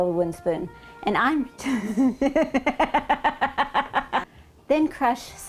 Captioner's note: laughing